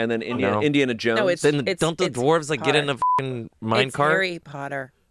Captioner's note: beep